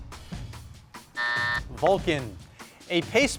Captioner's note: buzzer beeps